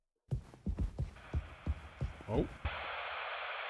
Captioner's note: static crackles